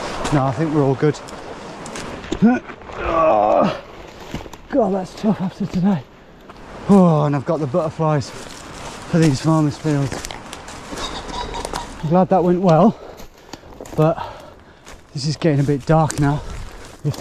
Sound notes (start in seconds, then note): 3.0 groaning